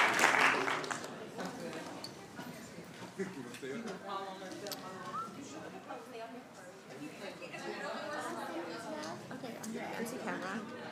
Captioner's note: applauding